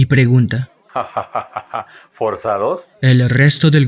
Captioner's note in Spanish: riendo